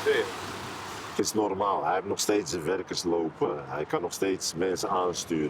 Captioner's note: Dutch spoken audio